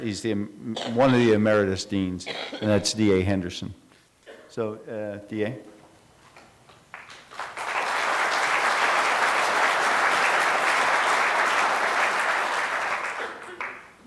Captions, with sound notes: He's the one the emeritus deans. And that's D.A. Henderson, so D.A. [APPLAUSE]